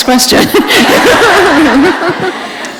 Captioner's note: laughter